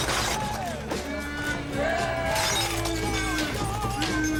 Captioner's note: crowd booing